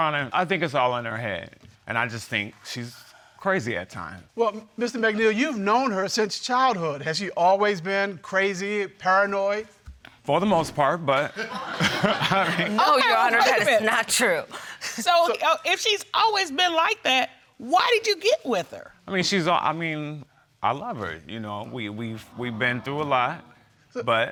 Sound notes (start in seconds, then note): 11.3 chuckles; 11.4 laughing